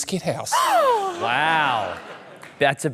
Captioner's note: gasps